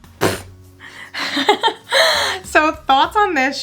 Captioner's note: laughing